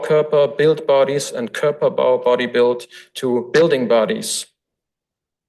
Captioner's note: foreign language